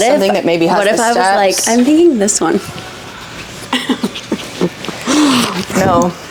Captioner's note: laughs